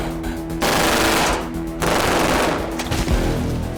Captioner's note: gunfire continues; body thud